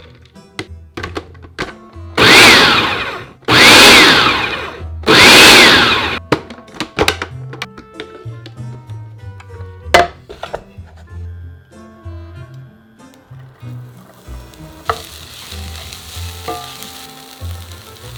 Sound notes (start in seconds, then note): 2.1 food processor pulsing; 13.6 onions sizzling